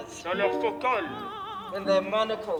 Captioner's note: translator speaks in foreign language